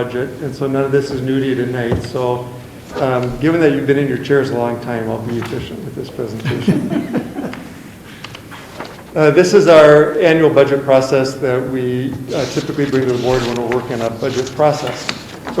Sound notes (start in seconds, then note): 6.3 chuckles